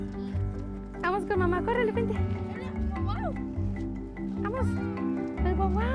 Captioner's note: speaks in foreign language